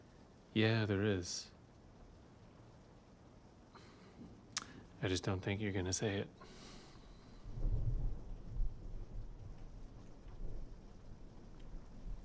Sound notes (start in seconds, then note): 4.5 clicks tongue; 6.8 thunder rumbles